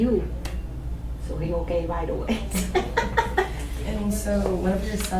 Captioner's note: laughs